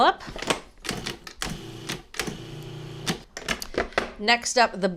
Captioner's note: food processor whirs